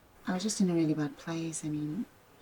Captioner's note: none